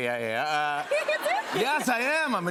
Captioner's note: laughter